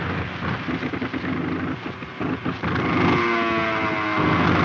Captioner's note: plane engine sputtering